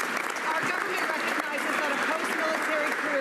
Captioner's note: some Applause